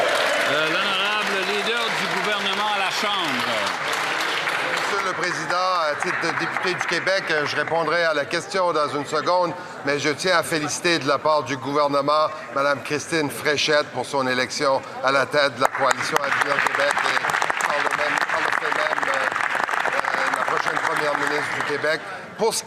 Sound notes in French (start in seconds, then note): 8.2 applaudissements